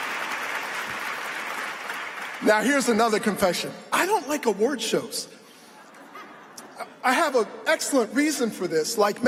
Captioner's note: applause